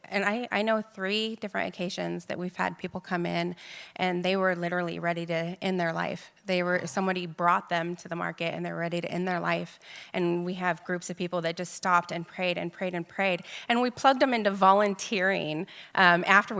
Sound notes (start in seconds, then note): none